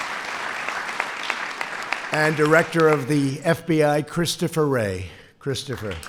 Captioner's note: applause